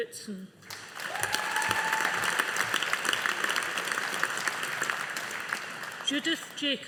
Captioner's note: audience applauding